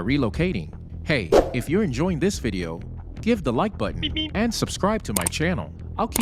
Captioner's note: sound effect